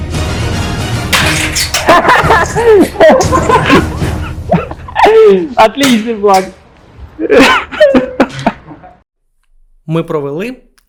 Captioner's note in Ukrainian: бурхливий сміх